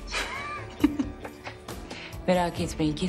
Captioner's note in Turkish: Gülüyor